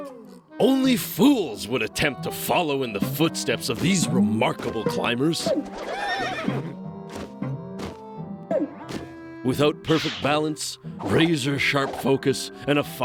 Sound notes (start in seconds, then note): 5.4 whinnies